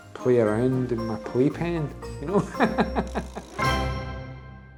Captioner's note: laughs